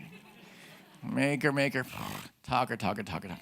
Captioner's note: grunts